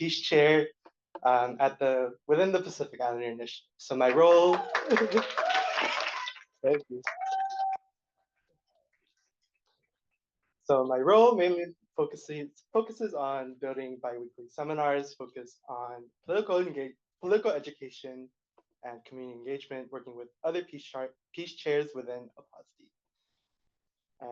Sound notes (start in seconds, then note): 4.0 applause